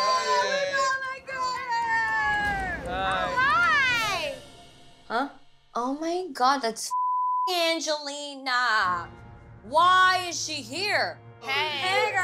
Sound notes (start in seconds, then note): 6.9 beep